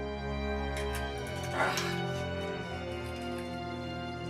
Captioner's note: winces